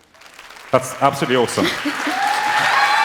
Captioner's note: applause